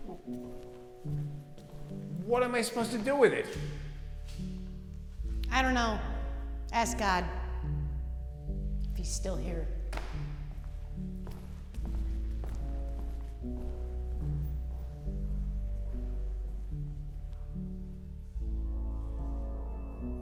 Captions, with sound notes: (poignant music continuing to play) - What am I supposed to do with it? - I don't know. Ask God, if He's still here. (poignant music continuing to play) (footsteps receding) (poignant music continuing to play)